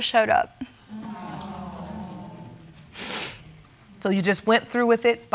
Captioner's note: audience exclaiming